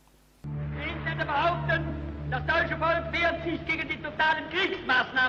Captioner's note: speaking in German